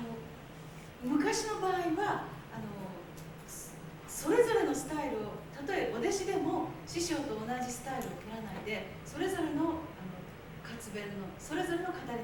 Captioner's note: speaking Japanes